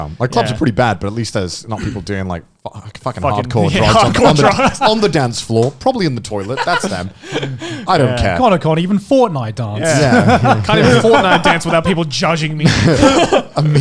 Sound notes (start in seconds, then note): 9.8 laughing